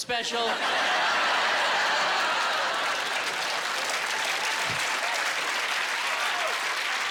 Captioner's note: applause